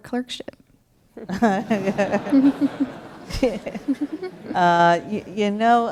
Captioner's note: laughter